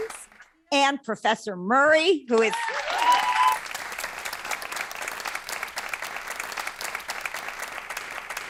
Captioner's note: applause